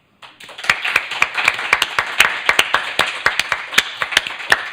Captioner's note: applause